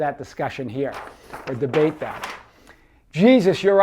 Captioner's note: paper rustles